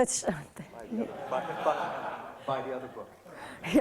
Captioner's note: crowd laughs